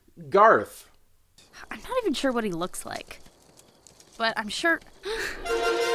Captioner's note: gasps